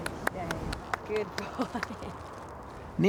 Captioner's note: chuckles